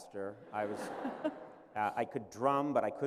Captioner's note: laughter